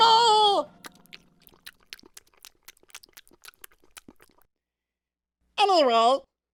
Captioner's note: chewing